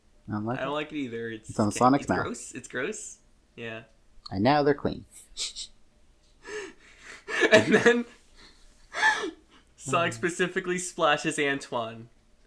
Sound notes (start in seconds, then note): 5.5 snickers; 7.1 laughs